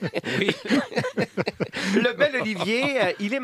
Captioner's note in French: rires